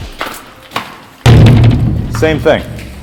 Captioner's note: bang